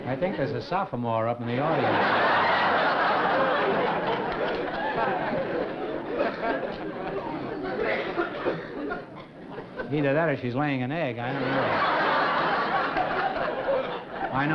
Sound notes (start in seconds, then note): 1.6 laughter